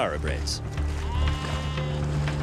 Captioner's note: sheep baa'ing